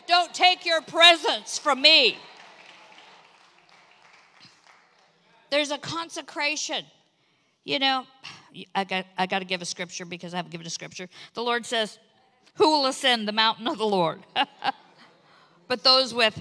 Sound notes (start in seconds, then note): 1.3 congregation applauds